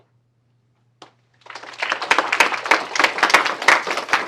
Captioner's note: applause